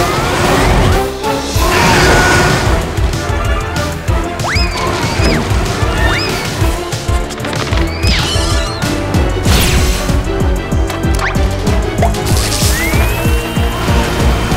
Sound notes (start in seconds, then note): 1.6 screaming